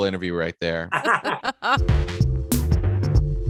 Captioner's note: laughing; upbeat music